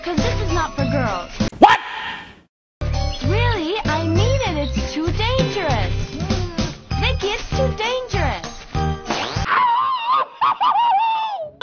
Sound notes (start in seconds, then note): 1.5 JonTron: WHAT?! sound; 9.5 Tom screaming sound